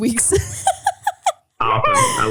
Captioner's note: laughing